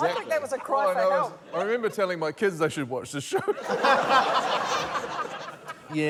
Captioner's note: laughter